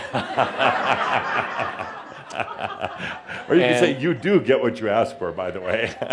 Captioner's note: laughter and Adamus chuckles